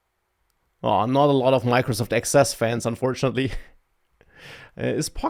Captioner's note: laughs